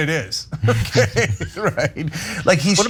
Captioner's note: laugh